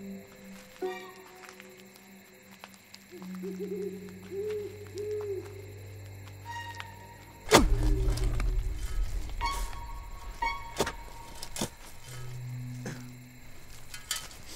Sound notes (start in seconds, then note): 3.2 owl hoots; 7.4 dramatic music; 7.4 shovel thuds; 9.5 dramatic music